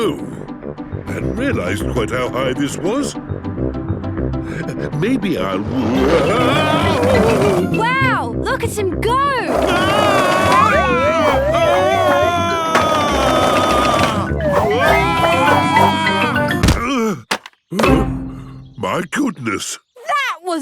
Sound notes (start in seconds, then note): 10.1 shouting; 17.9 panting